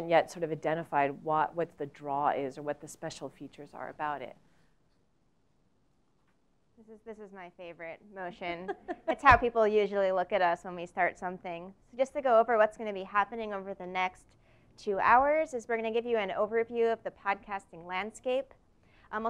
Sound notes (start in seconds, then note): 8.6 laugh